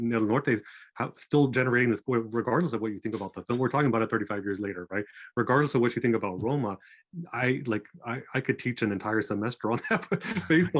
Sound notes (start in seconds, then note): 9.6 laughing